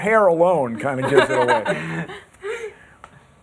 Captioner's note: laughter